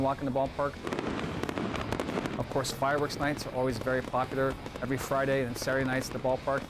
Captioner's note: fireworks bursting